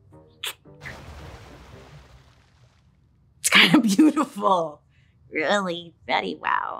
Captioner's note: liquid splashes